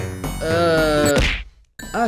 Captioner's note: smack